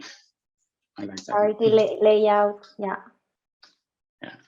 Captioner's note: murmurs